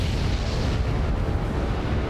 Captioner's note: gunshot